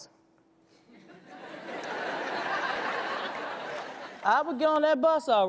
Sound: audience laughs

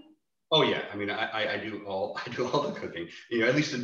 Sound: chuckles

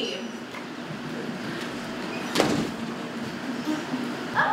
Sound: door opens

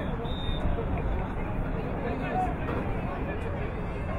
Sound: whistle blowing

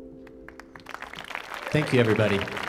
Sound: audience clapping

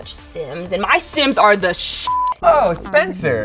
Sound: beep

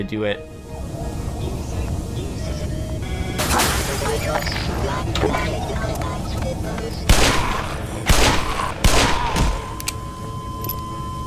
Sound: breaking Glass, Gunfire, Flatline

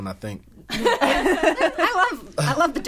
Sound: all laughing

